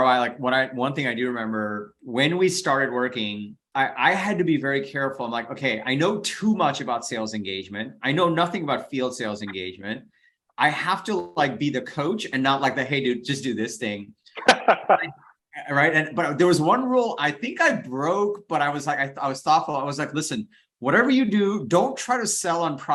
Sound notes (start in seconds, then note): 14.4 laughs